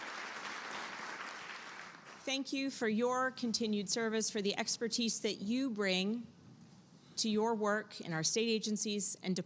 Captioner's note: applause